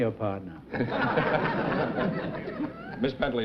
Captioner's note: chuckling